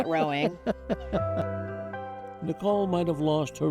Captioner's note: chuckling